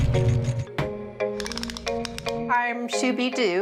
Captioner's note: pleasant music; gadget clacking